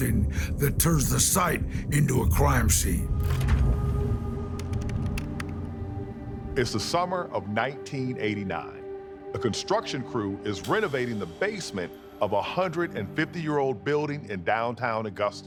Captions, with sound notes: that turns the site into a crime scene. [computer keyboard clacking] - It is the summer of 1989. A construction crew is renovating the basement of a 150-year-old building in downtown Augusta.